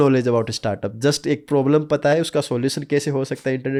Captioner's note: speaking hindi